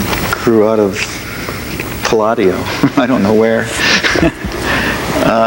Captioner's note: laughs